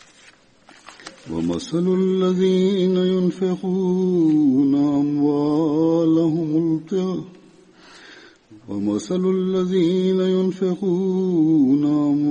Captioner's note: Arabic - Holy Quran 2:266